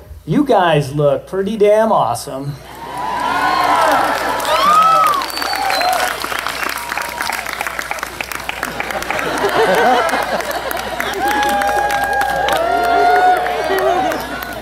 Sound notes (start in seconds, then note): 2.6 cheer; 13.5 laughter